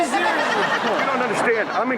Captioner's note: Chanel and audience laugh